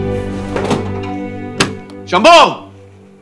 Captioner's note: Cupboard door opens